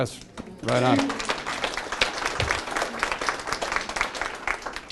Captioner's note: class claps